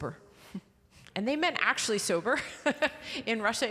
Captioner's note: laughing